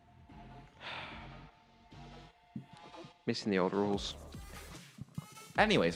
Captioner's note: sighs